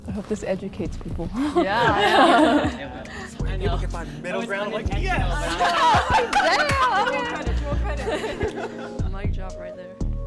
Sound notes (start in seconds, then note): 1.0 up beat music; 1.4 everyone laughing; 7.5 up beat music